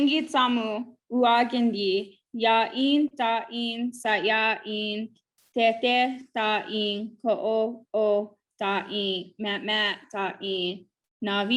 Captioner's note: speaking in Native Language